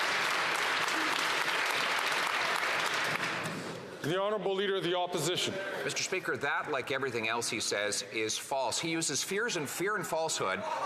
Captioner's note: some Applause